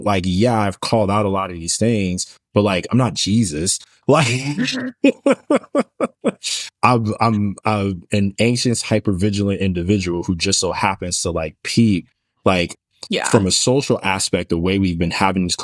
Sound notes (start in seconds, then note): 4.1 laughs